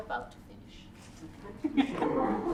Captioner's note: laughter